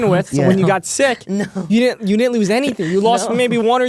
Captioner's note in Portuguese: risos; risos